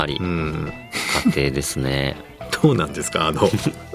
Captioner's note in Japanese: 鼻息